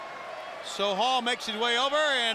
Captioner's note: crowd chatter